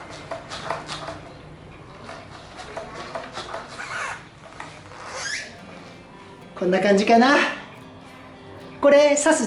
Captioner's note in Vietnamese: cười